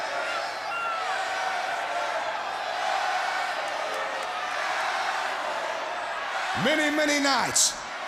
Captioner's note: crowd chatter